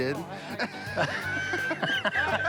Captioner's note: laughter